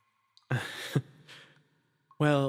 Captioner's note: chuckle